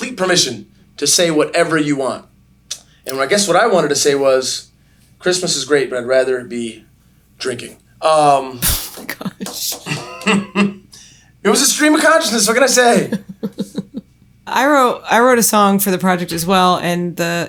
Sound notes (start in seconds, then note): 8.6 laughing; 12.9 chuckles